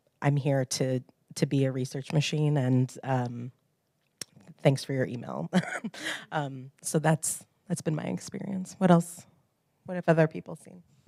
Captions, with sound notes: here to be a research machine and thanks for your email. [LAUGH] So that's been my experience, what else? What have other people seen?